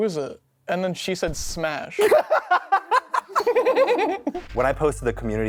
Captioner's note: laughter